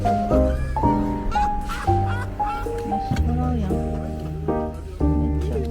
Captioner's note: you can hear the happy laughter